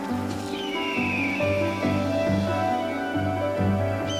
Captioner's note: squawking